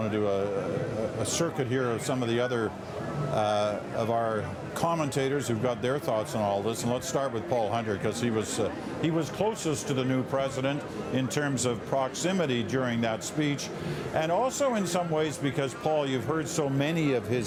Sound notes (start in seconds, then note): none